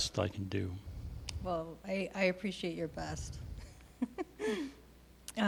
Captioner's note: laughing